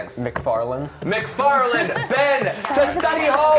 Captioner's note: cheers and applause